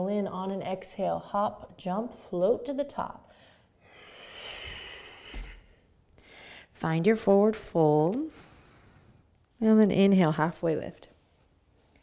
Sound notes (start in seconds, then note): 3.6 breathing